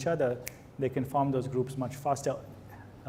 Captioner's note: snaps fingers